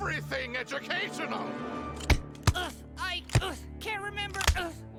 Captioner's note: Удар ружья